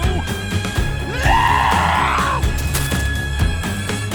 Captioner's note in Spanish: Rogers grita